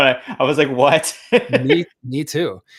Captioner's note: laughs